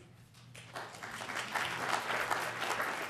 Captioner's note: applause